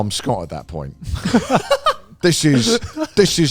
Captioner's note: group laughs